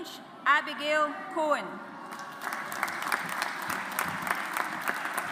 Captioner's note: audience applauds